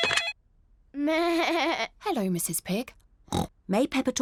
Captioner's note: phone rings; bleats; oinks